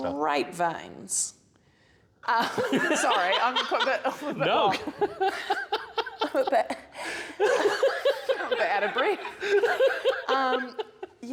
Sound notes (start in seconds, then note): 5.0 laughter; 7.4 more laughter